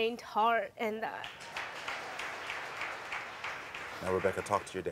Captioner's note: audience applauding